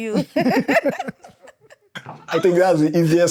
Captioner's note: laughter